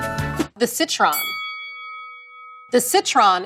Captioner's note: bell dings